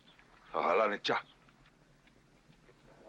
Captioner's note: speaking Comanche